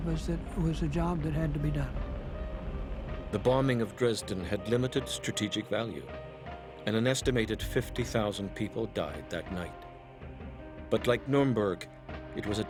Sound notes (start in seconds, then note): 2.8 voiceover